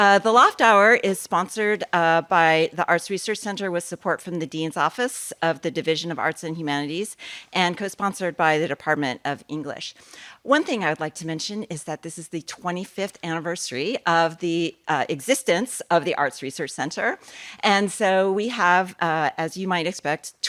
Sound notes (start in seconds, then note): none